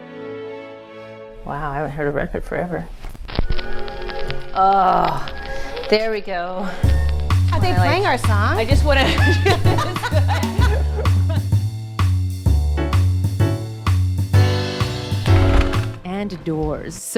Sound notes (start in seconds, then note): 8.8 women laughing; 11.1 upbeat music